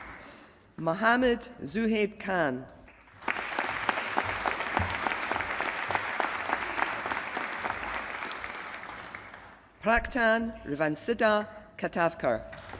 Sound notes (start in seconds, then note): 0.0 applause; 2.8 applause